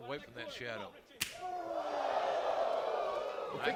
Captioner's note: crowd cheering